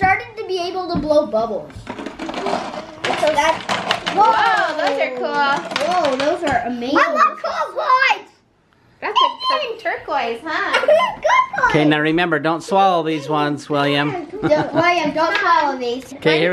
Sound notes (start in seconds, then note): 14.2 laughs